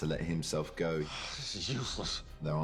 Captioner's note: sighs